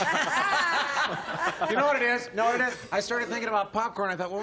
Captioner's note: laughter